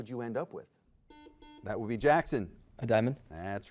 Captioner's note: buzzer beeps